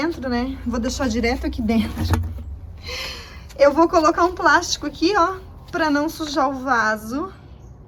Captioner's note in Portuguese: suspirando